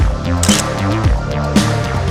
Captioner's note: photo Click